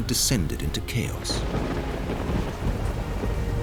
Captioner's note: thunder crashing